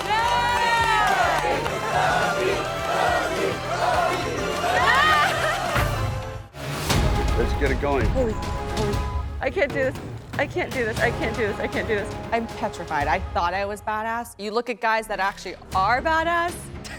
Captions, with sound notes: (chanting) Let's get it going. - Holy (beep). I can't do this. I can't do this. I can't do this. I can't do this. - I'm petrified. I thought I was badass. You look at guys that actually are badass.